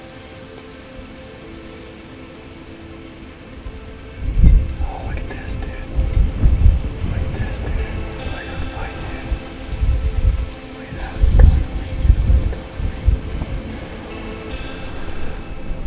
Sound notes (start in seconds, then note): 3.8 whispered voices; 13.2 soft music